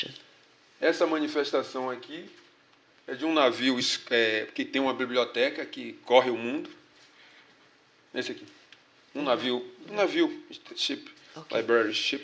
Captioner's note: speaking portuguese